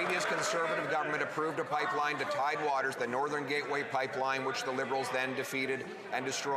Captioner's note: some Applause